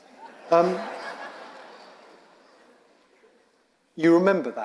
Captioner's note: audience laughing